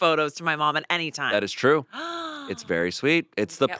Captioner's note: she gasps